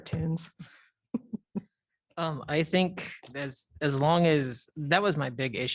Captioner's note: laughter